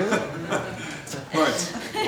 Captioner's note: laughing